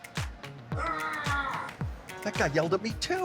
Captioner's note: man screaming